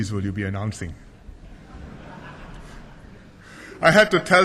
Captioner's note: laughter